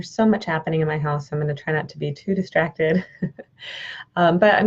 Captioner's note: chuckles